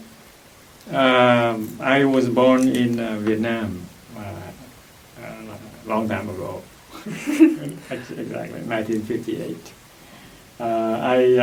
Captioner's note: laughs